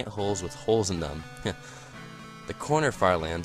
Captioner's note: sniggers